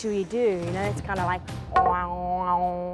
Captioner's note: imitates didgeridoo